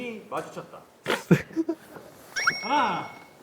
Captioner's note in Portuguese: Risos